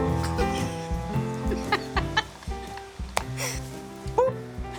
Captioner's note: laughing